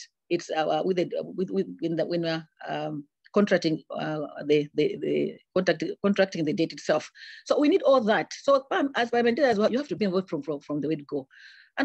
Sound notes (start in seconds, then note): 8.8 audio distorts